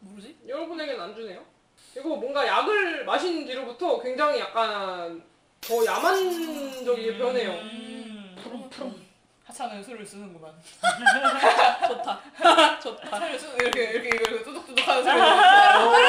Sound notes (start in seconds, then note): 6.9 making wild sound by mouth